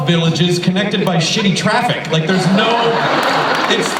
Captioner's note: laughter